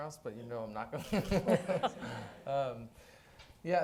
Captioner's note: laughing